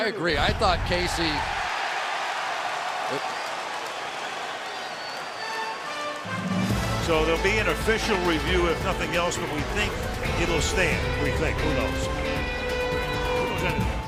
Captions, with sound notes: Yeah, I agree. I thought Casey-- [cheering] So there'll be an official review, if nothing else. But we think it'll stand. We think. Who knows?